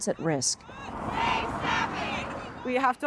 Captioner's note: crowd